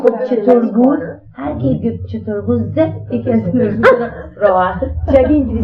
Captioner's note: speaking in Farsi